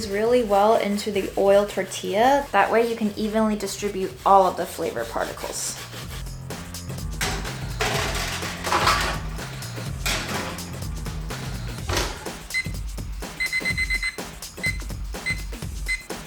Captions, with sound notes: really well into the oiled tortilla, what way you can evenly distribute all of the flavor particles. (timer beeping)